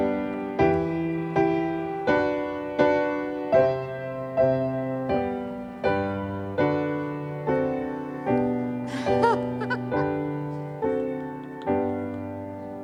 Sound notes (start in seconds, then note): 8.9 female laughing